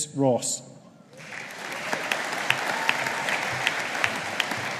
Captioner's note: audience applauding